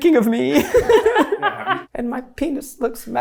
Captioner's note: laughs